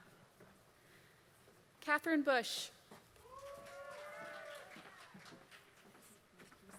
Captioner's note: applause